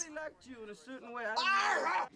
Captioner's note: cat squeal